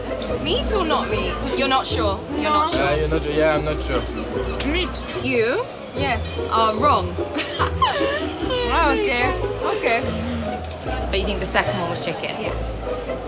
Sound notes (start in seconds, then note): 7.0 laughs; 10.0 chuckles